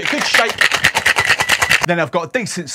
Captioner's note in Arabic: الجليد يخشخش في الزجاجة